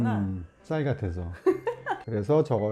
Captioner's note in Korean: 흐흐흐흐